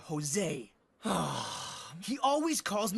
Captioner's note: Alejandro Sighing